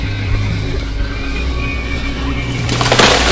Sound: breaking wood

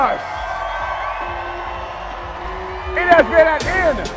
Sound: crowd cheering

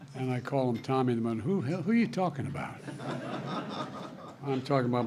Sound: laughter

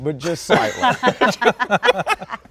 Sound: all laughing

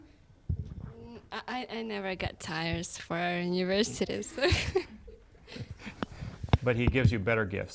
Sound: laughs

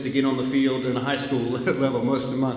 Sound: laughs

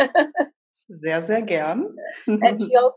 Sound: laughs

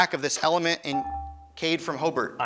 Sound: ding

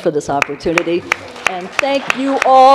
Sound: applause

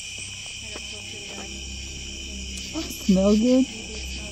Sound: speaking off mic

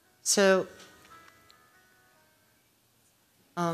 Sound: cell phone ringing

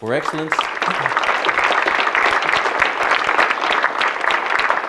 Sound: audience clapping

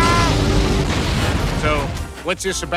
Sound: kaboom; distant explosion

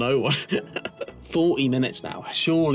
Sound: laughter

